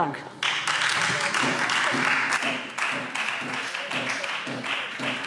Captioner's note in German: Beifall Freie Demokraten